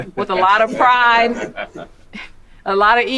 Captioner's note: man chuckling